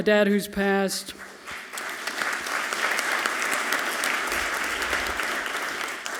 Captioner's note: audience clapping loudly